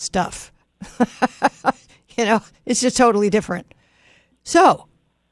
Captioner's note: laughs